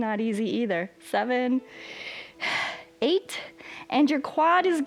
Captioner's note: inhales and exhales